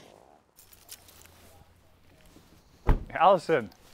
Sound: saddle clinking

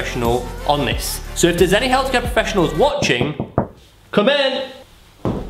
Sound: door Knocking

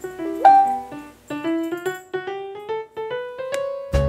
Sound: Facebook notification sound

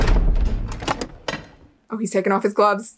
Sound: door slams; lock clicks

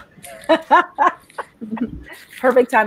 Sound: laughing

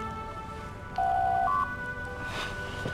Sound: door Chime

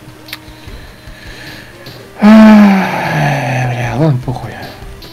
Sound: deep sigh

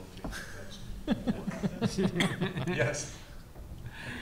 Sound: panelists chuckle

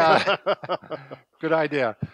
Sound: laughing

